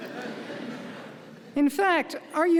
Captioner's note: audience laughing